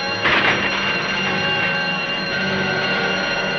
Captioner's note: crashing